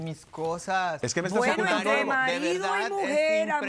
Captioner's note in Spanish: Hablan al unísono